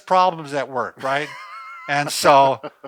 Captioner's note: laughs